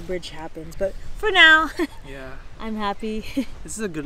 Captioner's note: chuckles